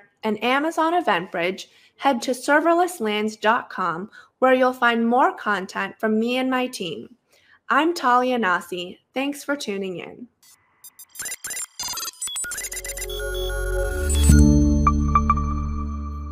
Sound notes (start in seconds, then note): 10.8 robot beeping; 12.4 logo chiming